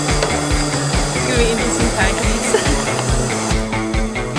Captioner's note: laughs